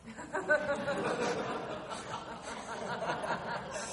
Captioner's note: people laughing